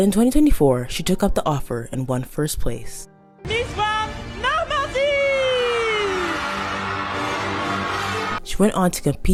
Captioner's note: cheering and music